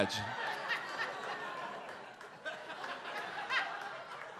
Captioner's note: audience laughs